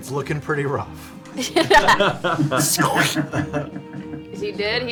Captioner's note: all laugh